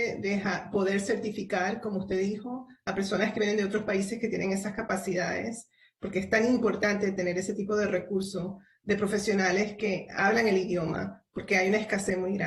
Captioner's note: spanish